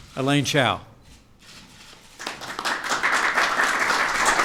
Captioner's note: applause